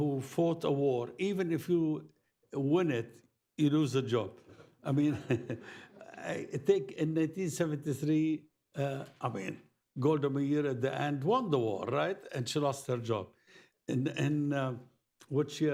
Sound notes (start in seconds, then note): 5.1 laughs